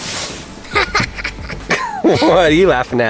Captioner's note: laughing